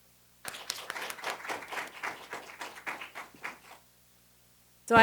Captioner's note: audience applauds